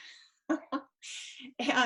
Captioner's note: laughing